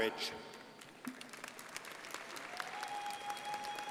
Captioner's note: crowd applauding